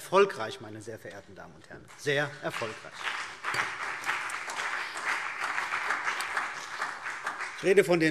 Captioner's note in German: Beifall CDU und BÜNDNIS 90/DIE GRÜNEN